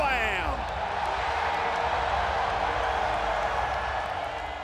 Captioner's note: people cheering